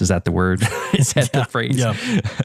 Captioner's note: laugh